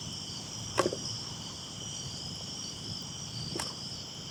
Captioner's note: crickets chirping